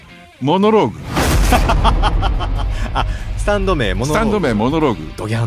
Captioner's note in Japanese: 笑い